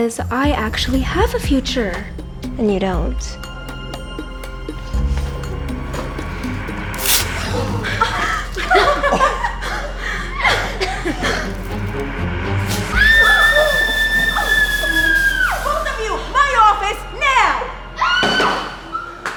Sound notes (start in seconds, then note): 7.3 gasps; 7.4 laughs; 12.8 screams; 17.9 screams